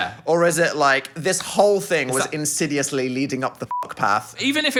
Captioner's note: beep